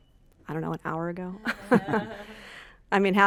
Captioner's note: laughs